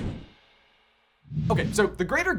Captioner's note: scene whooshing; graphics whooshing